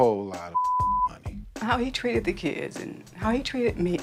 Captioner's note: voice breaking